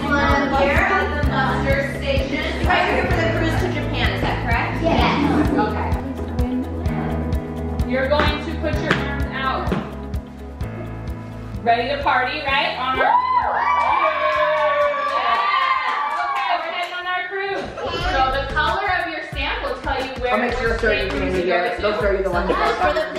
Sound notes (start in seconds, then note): 12.9 kids cheering